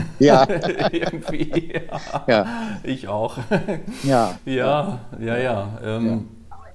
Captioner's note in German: Gelächter